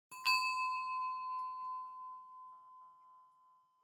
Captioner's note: bells ding